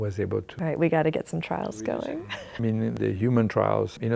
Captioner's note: chuckles